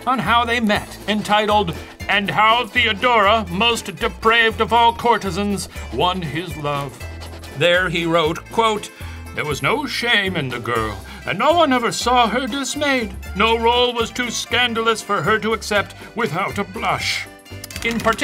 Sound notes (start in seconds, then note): none